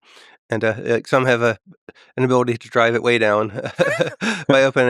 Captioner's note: laughs